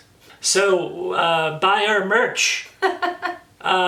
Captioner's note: laughs